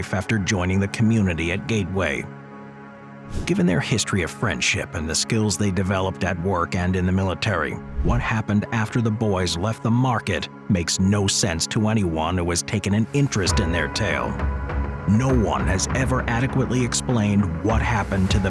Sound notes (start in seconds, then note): 2.4 gentle suspenseful music continues; 3.7 transition whooshes; 14.8 gentle suspenseful music continues